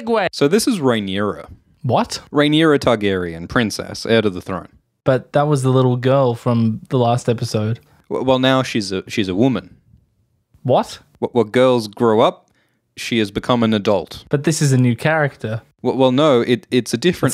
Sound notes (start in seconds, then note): 0.3 Alt Schwift X voice; 7.9 Alt Schwift X voice; 15.6 Alt Schwift X voice